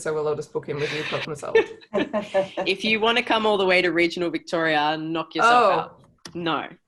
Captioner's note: laughter